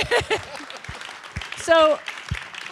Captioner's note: audience applauding